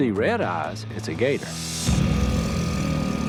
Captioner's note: growling